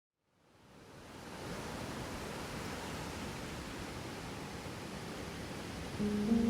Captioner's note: ocean Waves; soft Piano Music